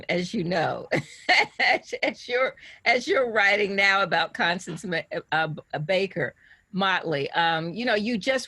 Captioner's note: laughs